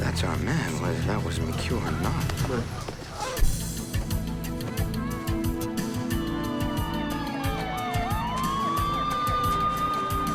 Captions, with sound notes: - That's our man, whether that was McQue or not. - Come on. (slow music) (sirens wailing)